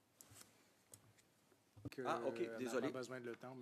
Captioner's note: speaking French